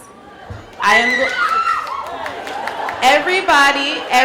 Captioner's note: cheering